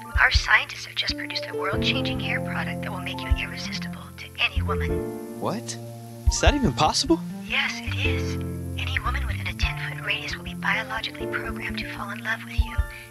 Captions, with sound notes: [sexy female robo caller] Our scientists have just produced [sexy female robo caller] a world-changing hair [sexy female robo caller] product that will make you [sexy female robo caller] irresistible to any woman. What? Is that even possible? [sexy female robo caller] Yes, it is. [sexy female robo caller] Any woman within a 10-foot [sexy female robo caller] radius will be biologically [sexy female robo caller] programmed to fall in love with you